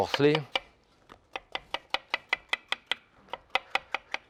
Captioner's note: knife tapping